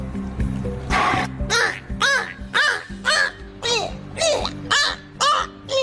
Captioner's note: whale blows and squawks